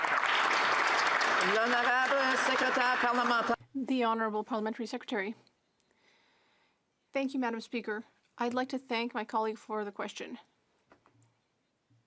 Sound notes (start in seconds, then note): 2.1 some Applause